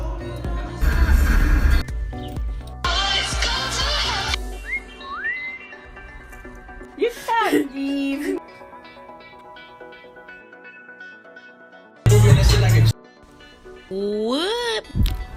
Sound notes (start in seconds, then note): 4.4 whistling; 10.9 rap music